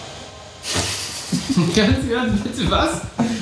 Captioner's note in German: lacht